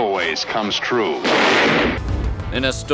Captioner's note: gunshot